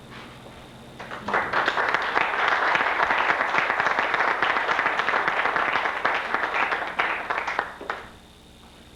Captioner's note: applause